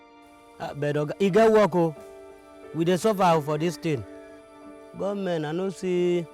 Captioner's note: speaking in foreign language